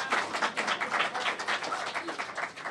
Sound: applause

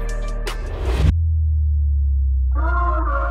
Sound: audio hit

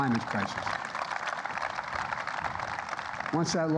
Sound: applause

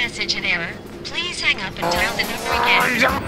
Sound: exasperated gurgling

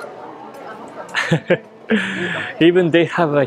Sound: chuckles

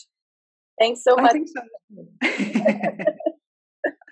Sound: laughs

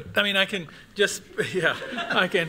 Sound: laughter

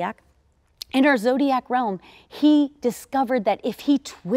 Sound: none

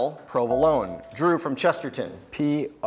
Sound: buzzer beeps

